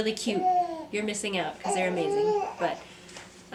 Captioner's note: babbling more